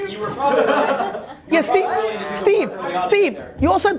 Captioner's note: group laughs